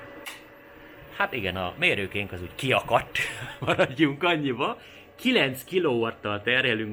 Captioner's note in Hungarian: nevetés